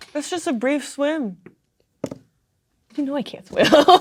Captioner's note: drops pen